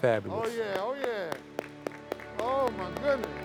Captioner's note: hands clapping